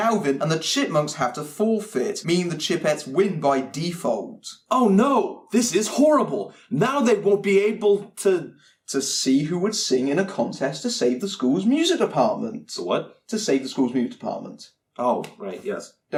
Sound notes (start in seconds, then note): 4.7 sarcastic